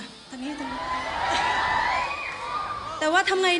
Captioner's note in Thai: กรี๊ด